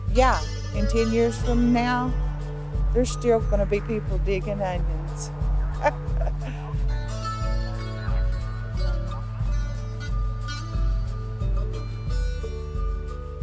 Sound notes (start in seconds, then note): 5.7 laughs; 6.9 music fades out